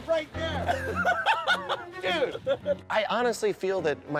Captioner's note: laughter